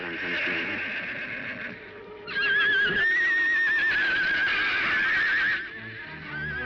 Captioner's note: horse neighing